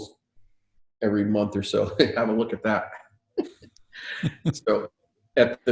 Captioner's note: laughing